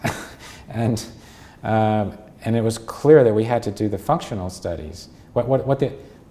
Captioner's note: chuckle